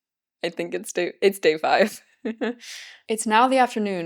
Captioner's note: nervous laughter